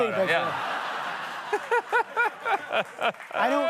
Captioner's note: laughter